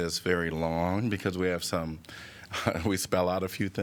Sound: laughter

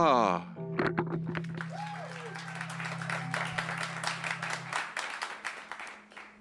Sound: cheers and applause

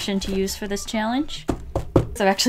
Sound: pat, pat

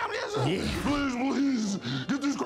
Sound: deep voice

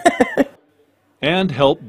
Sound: laugh

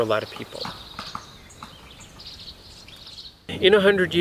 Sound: sounds of the forest

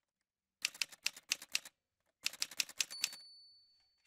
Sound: typewriter sounds

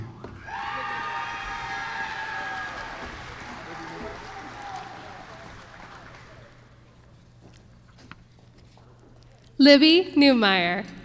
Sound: applause

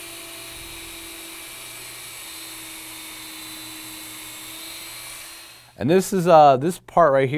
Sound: sound of drill

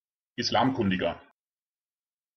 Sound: fast Pronunciation

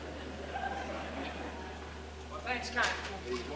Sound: audience laughing

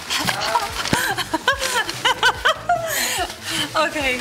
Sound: laughs

